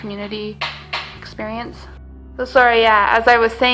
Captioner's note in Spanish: alguien golpea la puerta